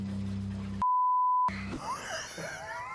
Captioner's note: beep; laughing